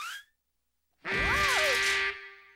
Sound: blaring

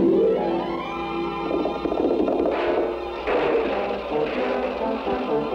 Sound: horses Trotting, Crash!

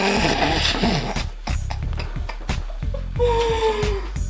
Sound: mom laughs

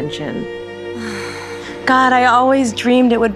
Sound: sighs

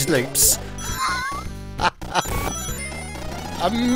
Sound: laughs

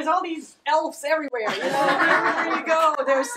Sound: people laughing

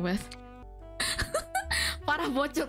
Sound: chuckles

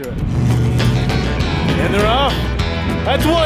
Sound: engine revs; upbeat western music

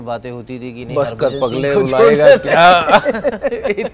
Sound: chuckles

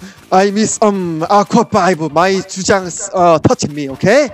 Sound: in broken English

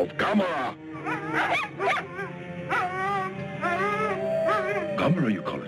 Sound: dogs barking

